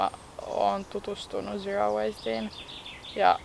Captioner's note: small birds chirping